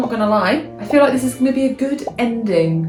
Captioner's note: bubbles popping